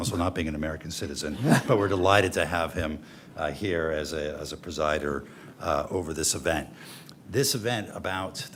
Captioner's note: laughter